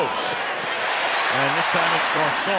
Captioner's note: cheering